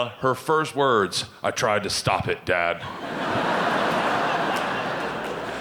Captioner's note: audience laughing